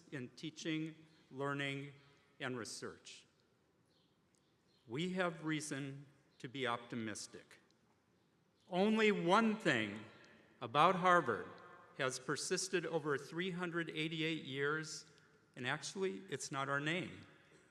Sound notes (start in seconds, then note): none